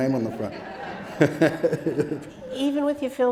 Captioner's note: audience laughing